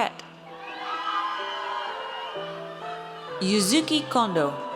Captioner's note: audience cheers